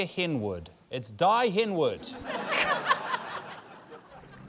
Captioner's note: laughter; serene music